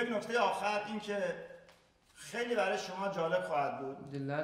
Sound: speaking in farsi

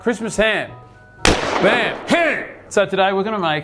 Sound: clap

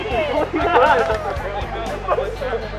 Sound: laughter

